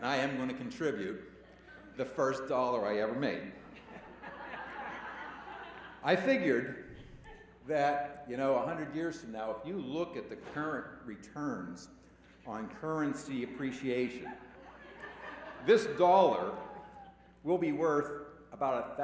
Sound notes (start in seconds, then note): 6.4 laughter